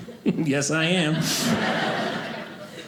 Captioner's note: audience laughing